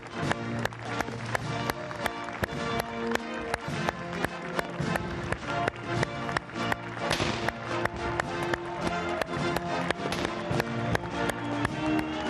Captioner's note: applause